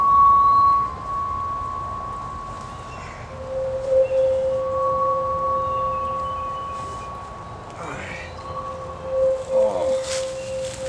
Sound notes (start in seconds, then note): 7.7 exhales; 9.6 grunts